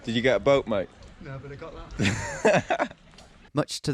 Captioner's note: laughs